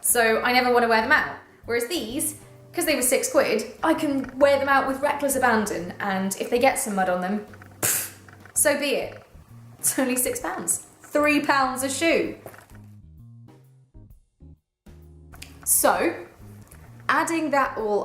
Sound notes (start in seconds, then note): 7.5 pfft